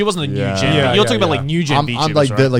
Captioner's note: affirmative murmuring